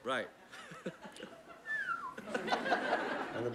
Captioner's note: whistles